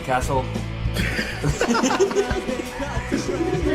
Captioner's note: laughter